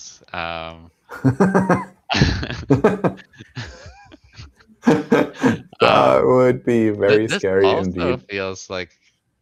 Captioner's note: laughs